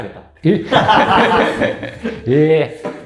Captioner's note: laughing